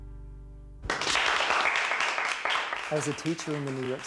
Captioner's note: applause